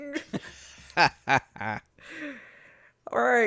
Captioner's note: cackles